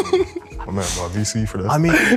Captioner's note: group laughing